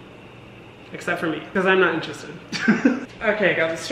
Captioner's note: laughs